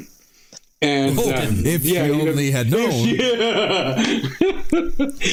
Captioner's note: laughing